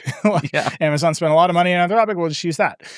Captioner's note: chuckles